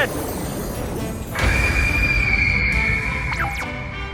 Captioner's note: majestic star dragon cry